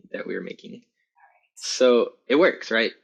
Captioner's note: whispering